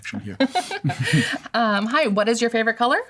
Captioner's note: laughter